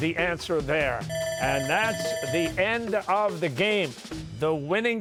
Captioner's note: bell ringing